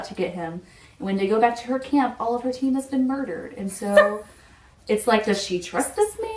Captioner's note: laughs